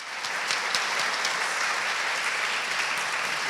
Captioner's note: applause